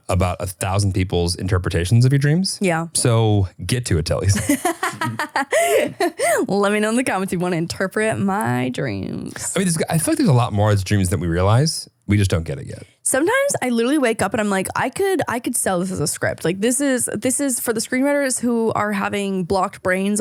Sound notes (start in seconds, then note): 4.3 laughing